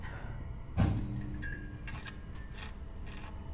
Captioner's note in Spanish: Fuerte ruido sordo